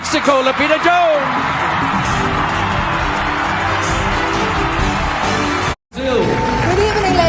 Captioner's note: crowd cheering and applauding